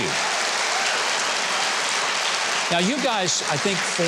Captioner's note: audience applauding; audience cheering